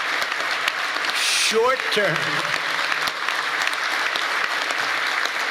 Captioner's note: cheers and applause